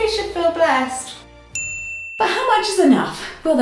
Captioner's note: ding